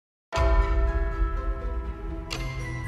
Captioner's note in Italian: Rintocchi